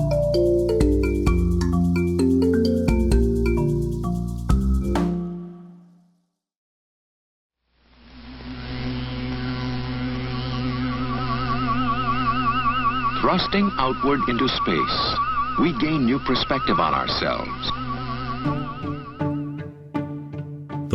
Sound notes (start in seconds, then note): 0.0 cheerful music; 7.5 retro space sounds